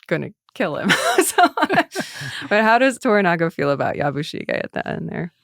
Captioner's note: laughs